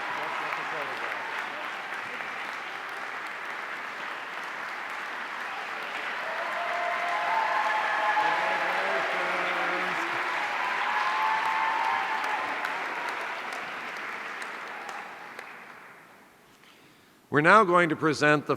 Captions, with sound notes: Let's take a photograph. (audience cheering) Congratulations. We're now going to present